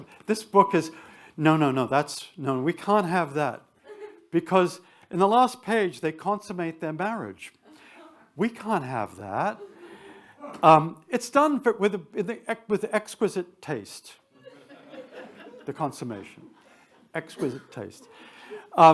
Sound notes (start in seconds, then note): 9.8 attendees chuckle; 16.1 attendees chuckling